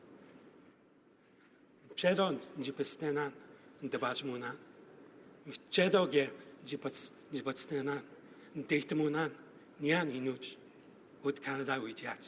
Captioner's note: speaking Alternate Language